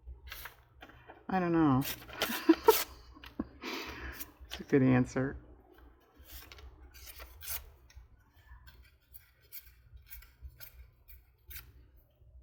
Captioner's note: laughs